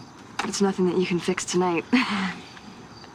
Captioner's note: chuckles